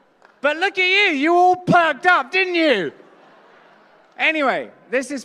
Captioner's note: laughter